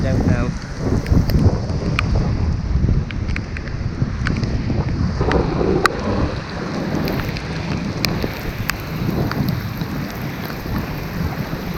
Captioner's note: thunderstorm sounds